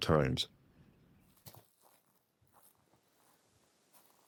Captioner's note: foot steps crunching in leaves